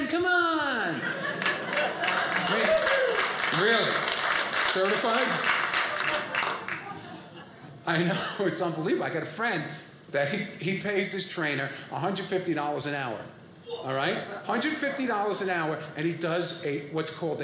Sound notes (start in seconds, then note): 0.8 audience laughing